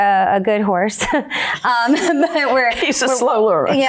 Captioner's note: laughing